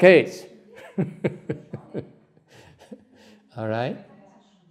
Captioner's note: laughter